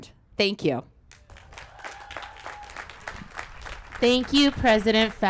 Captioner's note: applause